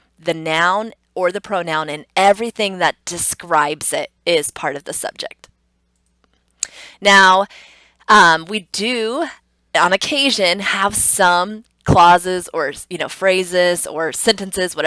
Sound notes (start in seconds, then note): 5.4 computer mouse clicks; 6.7 tongue clicks